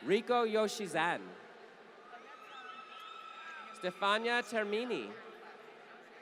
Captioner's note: applause